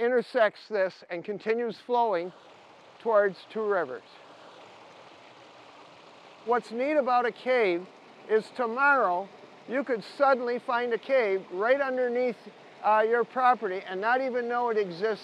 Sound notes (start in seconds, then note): 5.7 water rustling